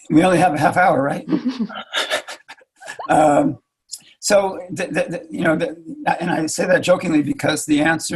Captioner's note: laughs